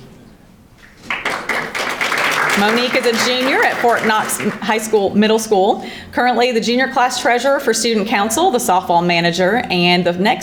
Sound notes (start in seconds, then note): 0.8 audience applauding